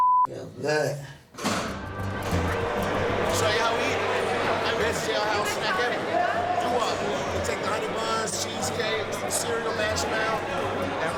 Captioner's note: beep